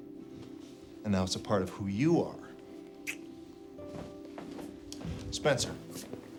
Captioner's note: clicks tongue; hand slaps